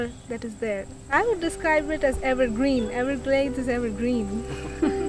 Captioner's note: laughing